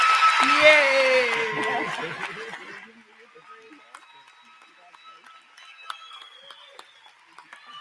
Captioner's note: applause